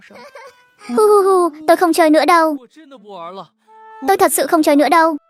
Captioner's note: sob sob sob